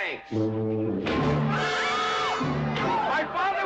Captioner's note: Kate screaming